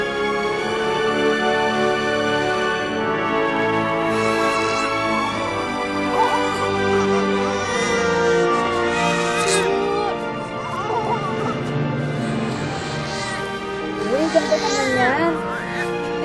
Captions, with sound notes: [baby crying] Hey, that looks really beautiful.